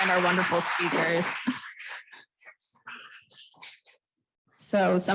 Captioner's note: applause